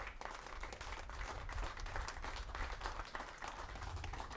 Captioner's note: audience clapping